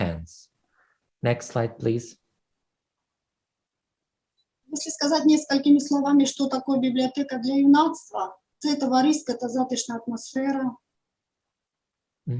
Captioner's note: foreign Language